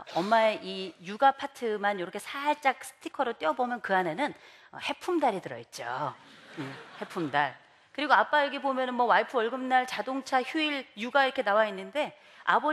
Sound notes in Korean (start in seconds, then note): 6.2 웃음